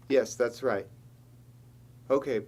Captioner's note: none